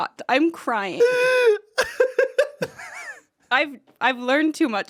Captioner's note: Anthony laughs